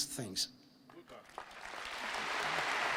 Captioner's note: applause